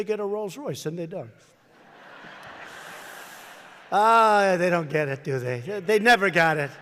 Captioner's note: laughter